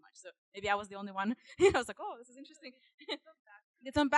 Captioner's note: chuckling